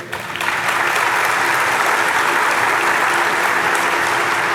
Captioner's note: audience applauding